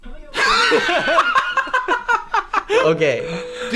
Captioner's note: laughter